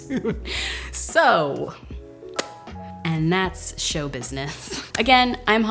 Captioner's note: laughs; smacks lips